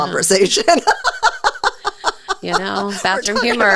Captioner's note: laughs